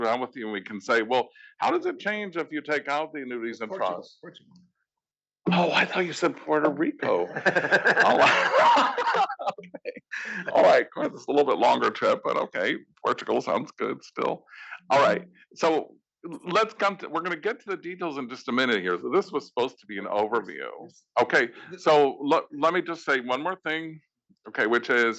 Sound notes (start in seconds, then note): 10.3 laugh